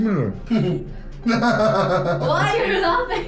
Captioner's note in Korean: 악마의 웃음